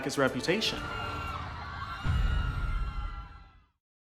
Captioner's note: fans cheering